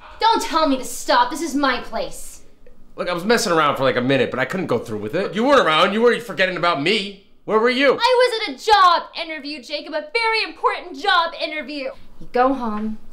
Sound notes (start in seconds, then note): none